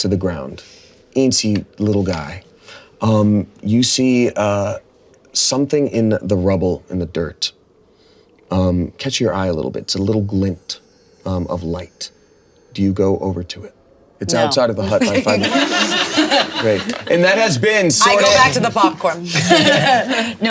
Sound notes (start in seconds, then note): 14.8 all laughing